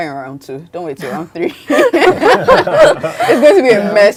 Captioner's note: group laughing